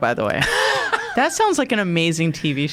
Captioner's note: laughing